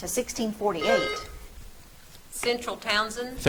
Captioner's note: buzzer trills